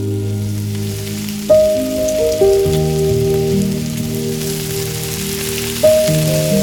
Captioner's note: fry pan sizzle intensifies